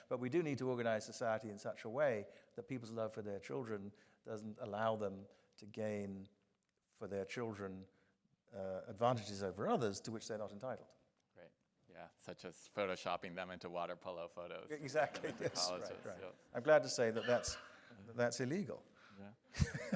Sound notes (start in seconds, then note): 14.9 audience chuckling; 19.5 Anthony laughing